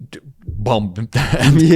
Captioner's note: laughs